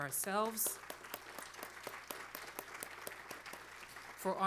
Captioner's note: applause